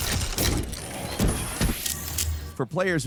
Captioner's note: machine whirring